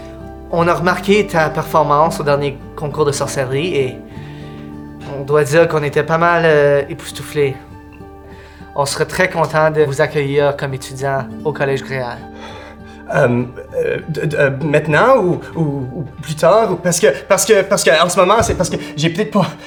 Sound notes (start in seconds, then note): 13.0 Hugo stutters